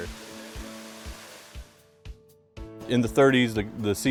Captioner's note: water falling